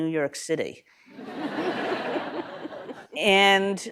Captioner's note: laughter